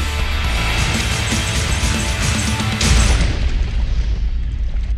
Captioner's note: glass shattering